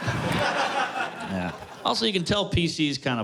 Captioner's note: laughter